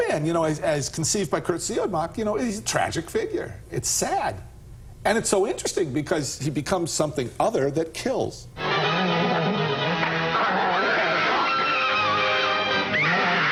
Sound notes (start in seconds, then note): 10.6 screaming